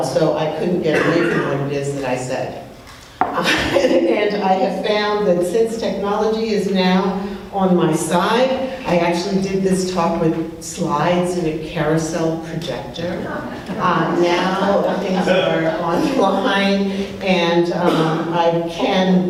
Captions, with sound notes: So, I couldn't get way through ideas that I said. (laughs) And I have found, that since technology is now on my side, I actually did this talk with slides in a carousel projector. (people laughing) Now, things are online and I can show you,